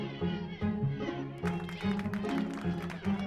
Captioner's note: applause